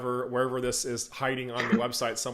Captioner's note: laughter